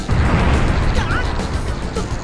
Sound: fumble

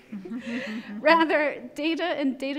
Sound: laughing

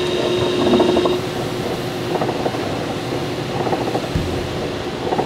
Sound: machinery continues whirring; bagels thudding

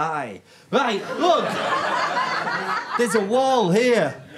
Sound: audience laughter

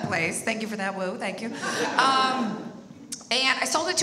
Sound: audience laughs

